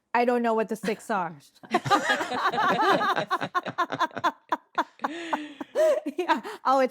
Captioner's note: all laughing